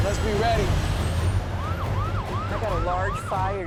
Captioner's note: siren wailing